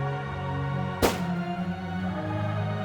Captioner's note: gun shot